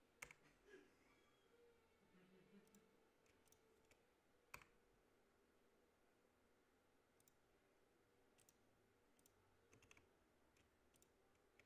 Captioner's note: continued mouse and keyboard clicking